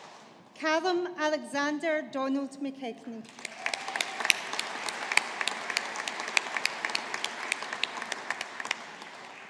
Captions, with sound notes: Callum Alexander Donald McKechnie. (AUDIENCE APPLAUDING)